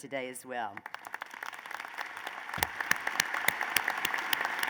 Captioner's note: applause